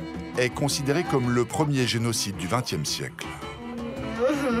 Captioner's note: herero audio spoken